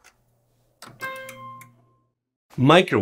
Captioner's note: microwave beeping